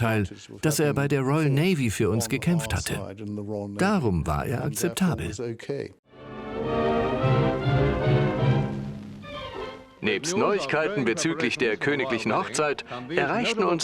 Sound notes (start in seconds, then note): 6.3 dramatic music; 9.5 voiceover